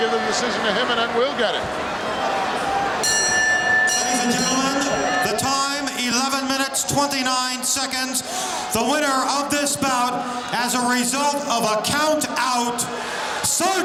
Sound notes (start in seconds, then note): 3.0 bell ringing